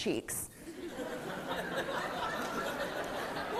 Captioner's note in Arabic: ضحك